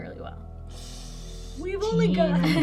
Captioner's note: sucks in his breath